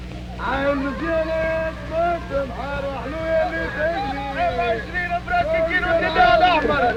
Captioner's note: crowd chanting and shouting in foreign language